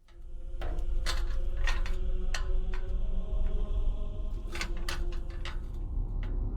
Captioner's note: choir singing; metal clicking